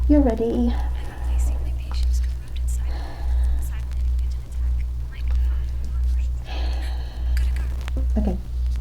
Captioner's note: gasp